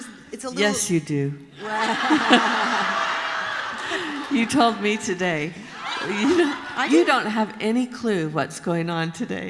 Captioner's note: laughter